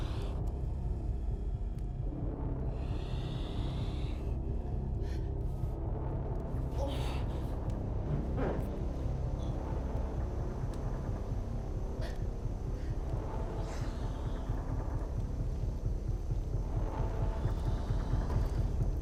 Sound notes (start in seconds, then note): 6.7 Belle groaning